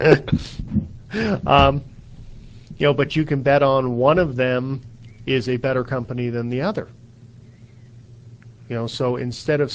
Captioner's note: laughing